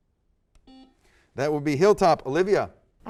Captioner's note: buzzer